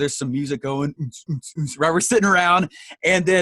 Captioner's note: mimics deep bass